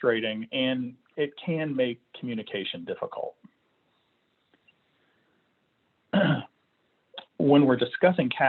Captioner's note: clearing throat